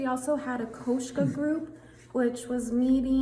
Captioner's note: speaks in foreign language